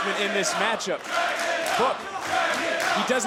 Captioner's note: crowd chants "Dragunov"